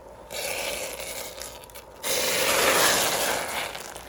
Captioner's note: egg shell cracking; acetone bubbling